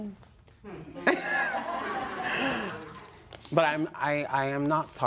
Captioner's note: laughter